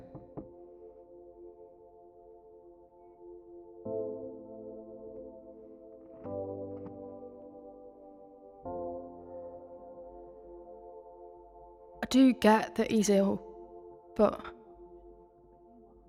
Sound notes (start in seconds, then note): 0.0 knocking on door; 5.2 faint sound of door opening